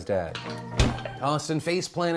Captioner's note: hard punch